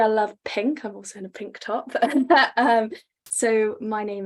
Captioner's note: laughs